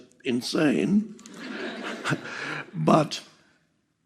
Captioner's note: all laughing